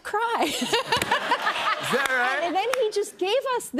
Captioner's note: laughter